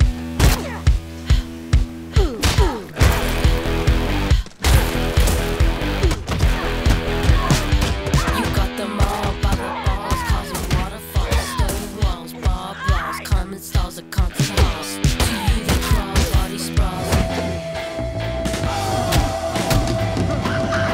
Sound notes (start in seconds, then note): 5.9 kicks whacking